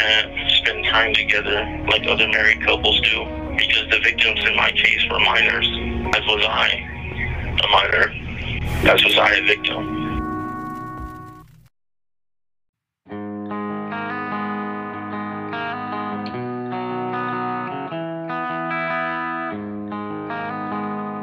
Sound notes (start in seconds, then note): 8.7 back tv signals off; 9.6 music fades and ends